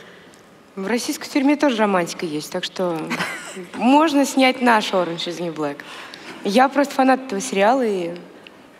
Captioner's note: foreign Language